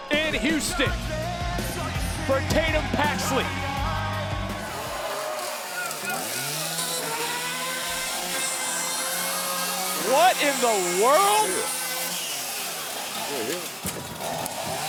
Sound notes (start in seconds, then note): 5.6 chainsaw motor roaring